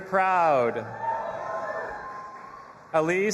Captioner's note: audience applauding and cheering